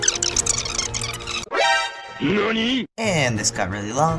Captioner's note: surprised noise